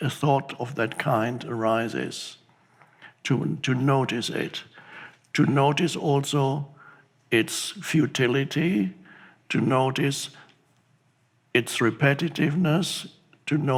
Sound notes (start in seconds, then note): none